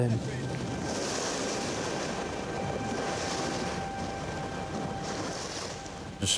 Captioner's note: gentle music; waves roaring